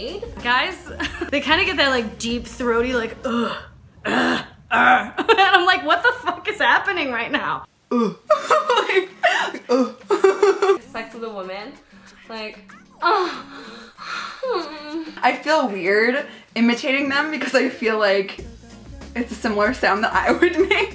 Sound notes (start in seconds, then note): 4.7 grunting and laughing; 7.9 grunts, then laughs; 11.8 moaning sounds; 20.2 laughing